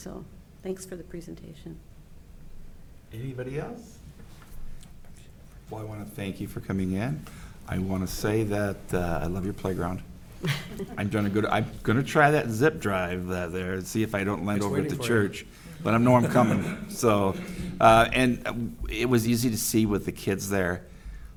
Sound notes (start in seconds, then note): 10.4 board chuckling